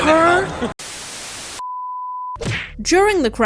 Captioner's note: static